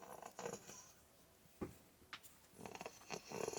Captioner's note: snoring